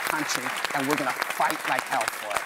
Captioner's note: applause